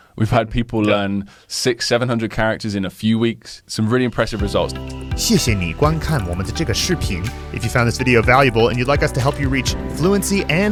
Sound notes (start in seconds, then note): 5.0 speaking Mandarin